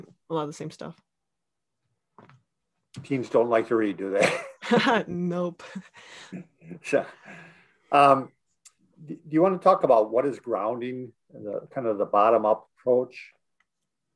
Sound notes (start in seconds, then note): 4.1 laughing